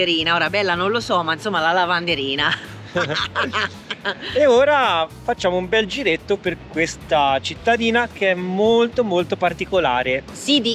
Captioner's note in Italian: risate